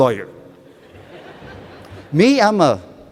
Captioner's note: laughter